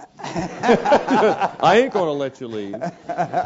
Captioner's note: laugh